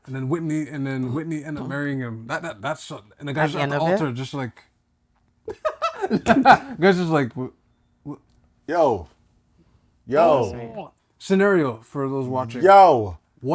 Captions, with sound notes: And then Whitney, and then Whitney end up marrying him. That's-- and the guys at the altar just like-- [LAUGHTER] Guys just like-- Yo. Yo. Scenario for those watching. Yo.